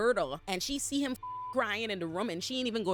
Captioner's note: beep